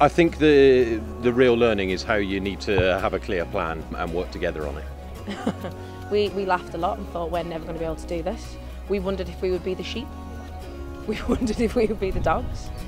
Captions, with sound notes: I think the, the real learning is how you need to have a clear plan and work together on it. (laughs) - We laughed a lot and thought we're never going to be able to do this. We wondered if we would be the sheep, we wondered if we would be the dogs